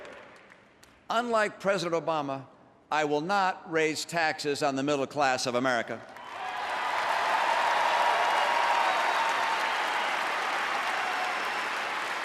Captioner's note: applause